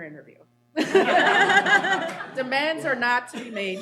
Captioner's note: laughter